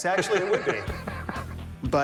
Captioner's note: laughs